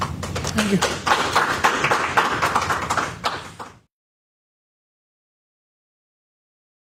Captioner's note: applause